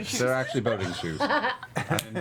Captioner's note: laughs